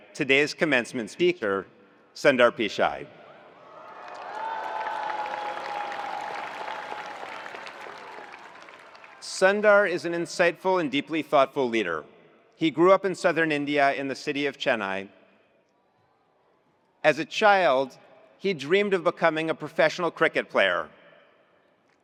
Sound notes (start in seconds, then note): 3.5 attendees cheering; 3.8 attendees applauding